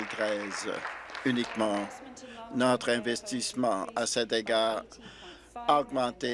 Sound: applause

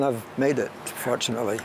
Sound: laughs

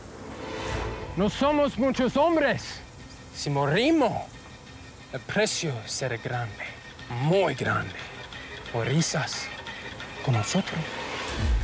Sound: speaking spanish

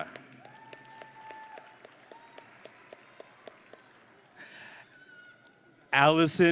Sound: audience and graduates cheering

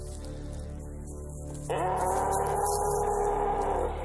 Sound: loud roar

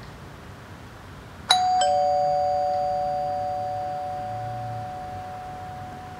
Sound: calling Bell

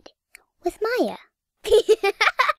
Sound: laughs

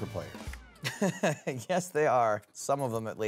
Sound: laughs

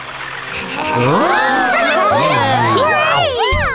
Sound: cheers, laughter

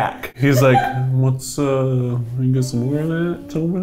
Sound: laughs

